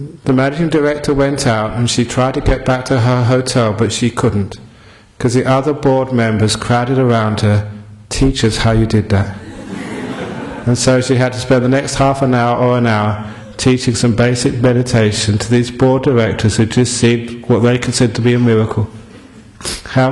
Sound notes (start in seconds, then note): 9.4 laughter